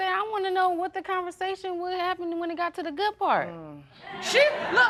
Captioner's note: audience laughing